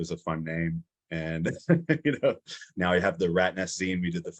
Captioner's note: laughs